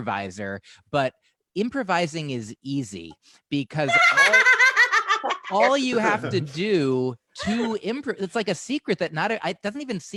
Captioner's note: laughter